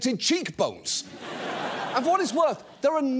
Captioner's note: audience laughs